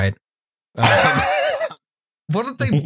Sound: laughs

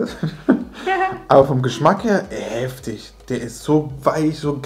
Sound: laughing

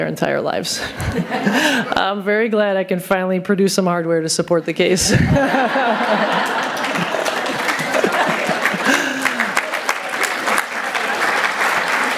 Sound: applause

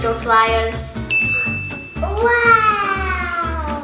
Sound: ringing Bell

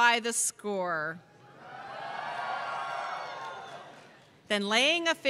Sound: cheers

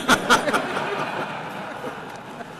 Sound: laughter

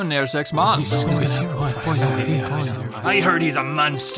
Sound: villagers muttering

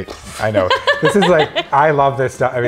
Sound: laughs

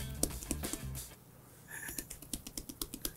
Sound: tapping

